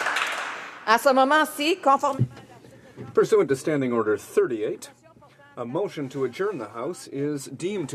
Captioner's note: applause